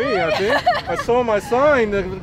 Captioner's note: laughing